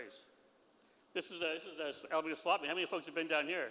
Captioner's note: foreign language